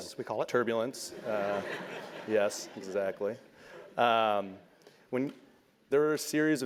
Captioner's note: laugh